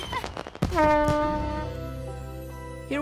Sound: horn blowing

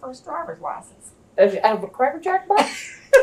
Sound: laughter

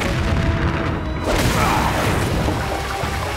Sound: grunting

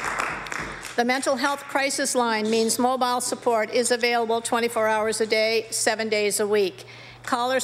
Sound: applause

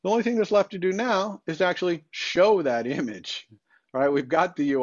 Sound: chuckles

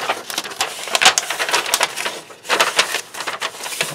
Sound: paper crinkles

